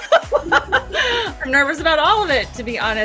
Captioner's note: laughter